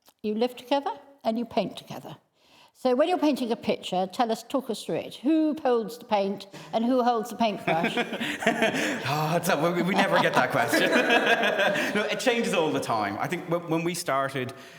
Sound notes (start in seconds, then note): 7.4 laughing; 11.0 both laughing